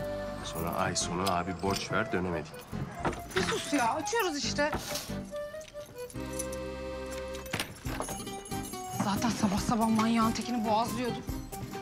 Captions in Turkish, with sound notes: Sonra ay sonu, abi borç ver dönemedik. (Kapı açılma sesi) Bir sus ya, açıyoruz işte. (Anahtar sesi) Zaten sabah sabah, manyağın tekini boğazlıyordum!